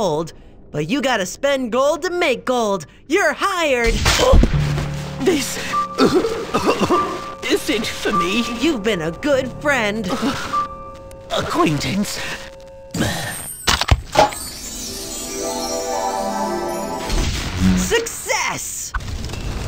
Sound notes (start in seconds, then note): 3.9 gunshot; 6.0 cough; 14.3 sparkling